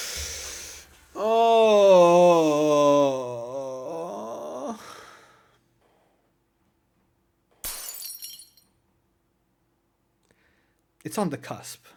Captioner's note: existential cry